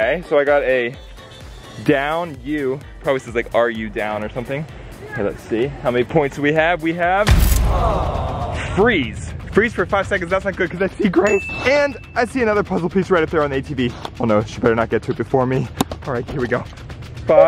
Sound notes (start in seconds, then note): 7.3 crunch; 7.7 audience groans; 11.2 dings